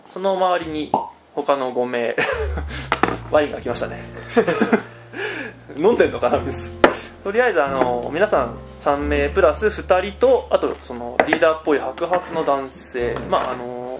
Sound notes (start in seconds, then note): 4.2 laughs; 7.4 laughs